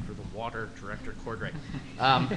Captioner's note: laughter